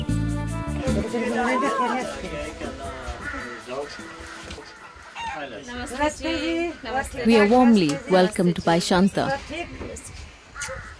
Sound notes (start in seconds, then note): 0.0 gentle music; 0.9 indistinct conversation